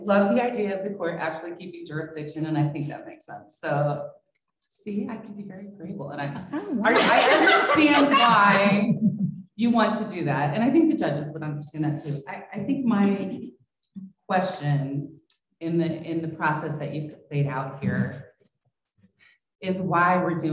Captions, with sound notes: >> I LOVE THE IDEA OF THE COURT ACTUALLY KEEPING JURISDICTION, AND I THINK THAT MAKES SENSE. SEE, I CAN BE VERY AGREEABLE. [ LAUGHTER ] AND I UNDERSTAND WHY YOU WANT TO DO THAT, AND I THINK THE JUDGES WOULD UNDERSTAND THAT, TOO. I THINK MY QUESTION IN THE PROCESS THAT YOU'VE LAID OUT HERE